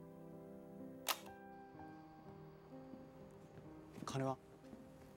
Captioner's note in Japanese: ボタンを押す音